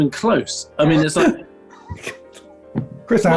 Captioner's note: laughing